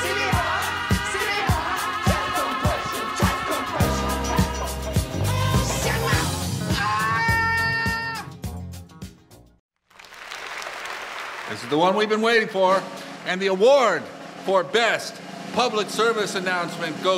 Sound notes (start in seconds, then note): 6.6 yells; 9.8 audience applauding